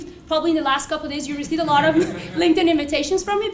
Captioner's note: laugh